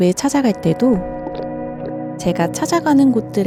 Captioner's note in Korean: 물 속에 잠기는 소리